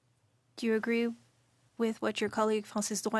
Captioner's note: speaking French